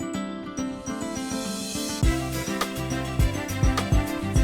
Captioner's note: laughs